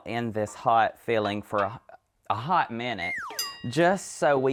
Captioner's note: noisemaker chimes